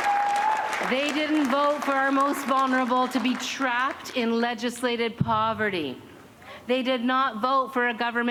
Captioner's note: cheers and applause